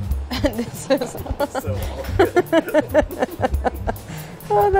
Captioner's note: laughing